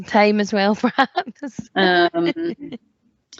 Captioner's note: laughs